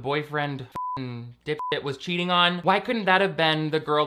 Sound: beep

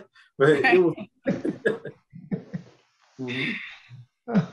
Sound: group laughs

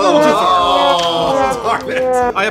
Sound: collective groan with a trombone signifying failure

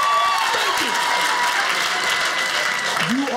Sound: audience applauding

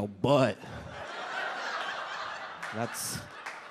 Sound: audience laughs

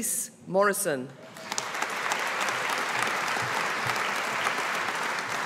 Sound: audience applauding

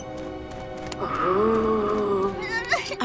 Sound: moaning

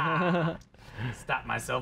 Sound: laughs

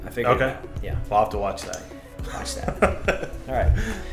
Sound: laughs

